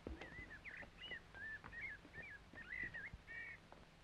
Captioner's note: birds chirping